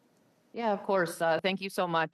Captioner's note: speaking French